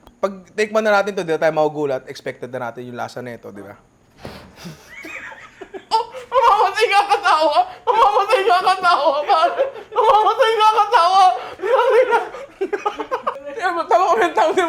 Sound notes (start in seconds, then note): 4.5 laughs